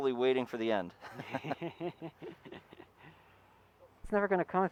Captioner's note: both laughing